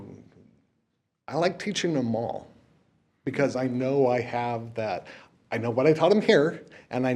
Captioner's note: none